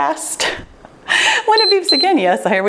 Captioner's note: laughs; timer beeps